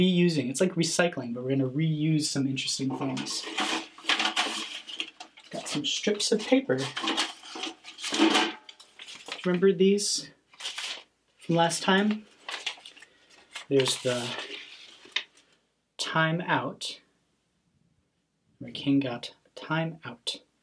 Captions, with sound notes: It's like recycling, but we're going to reuse some interesting things (bucket rattling) I've got some strips of paper. Remember these? From last time? There's the "time out" where King got a time out.